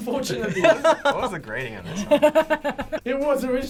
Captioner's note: laughs